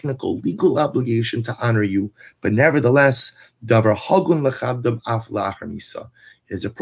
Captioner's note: Hebrew